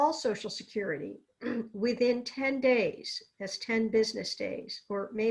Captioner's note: clears throat